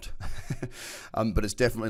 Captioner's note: laughs